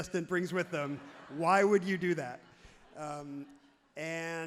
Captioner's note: crowd laughs happily